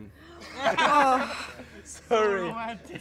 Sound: laughter

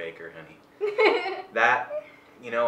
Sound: laughs

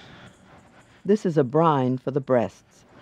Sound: voiceover

